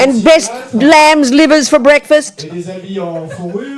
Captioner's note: speaking in French